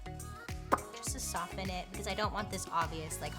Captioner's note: lips pop